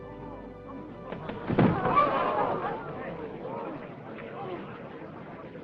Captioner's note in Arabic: الحشد يلهث